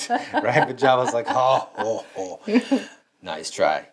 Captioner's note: laughs